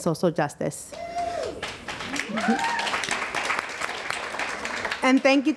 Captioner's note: audience applause